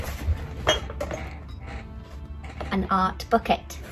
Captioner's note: equipment clinking